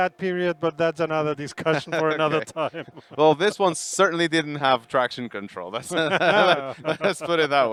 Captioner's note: laughing